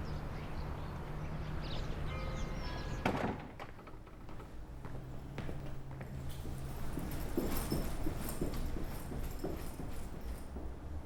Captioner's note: sound of traffic